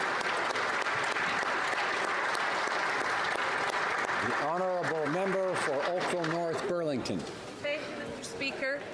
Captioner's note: applause